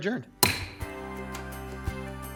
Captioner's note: gavel banging; bright upbeat music